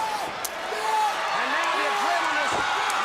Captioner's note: crowd chatter